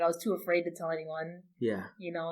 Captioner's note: laughs